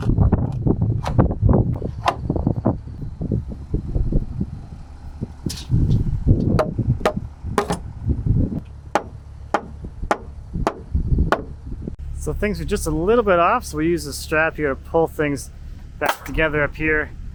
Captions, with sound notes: (hammer banging) (hammer banging) So things are just a little bit off. So we use a strap here to pull things back together up here